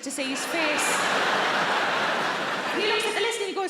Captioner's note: audience laughs